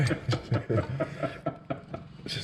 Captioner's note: laughing